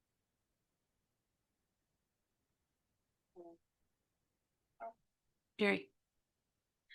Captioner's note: audio cuts out